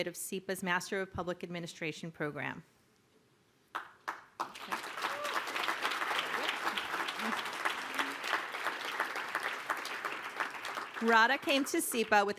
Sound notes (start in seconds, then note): 3.9 applause